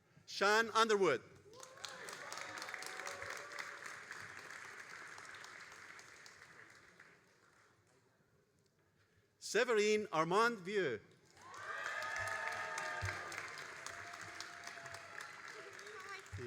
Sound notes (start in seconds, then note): 1.4 all applauding; 11.3 all applauding and cheering